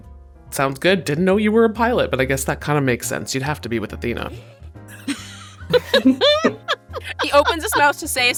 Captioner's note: chuckles